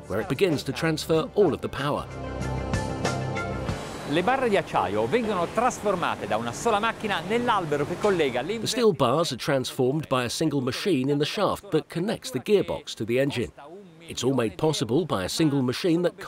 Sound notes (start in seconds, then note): 4.2 speaking in foreign language